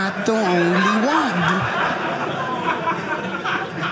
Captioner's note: audience laughing